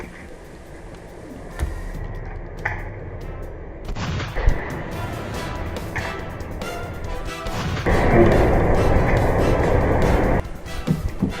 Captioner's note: heartbeats; gun cocks + gunshots; heartbeats